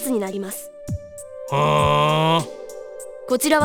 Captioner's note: bored hum